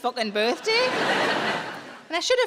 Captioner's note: audience laughing